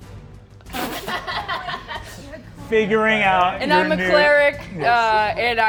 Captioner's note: Ally laughs